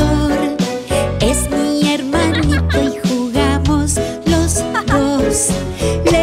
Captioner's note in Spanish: Risas; Sonido de tos